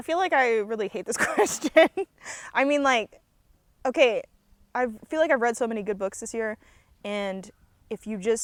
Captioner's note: laughs